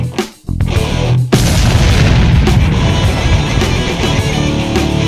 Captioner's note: flames whoosh